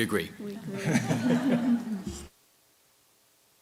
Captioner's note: laughter